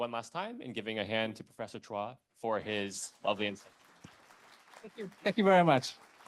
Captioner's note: audience applauding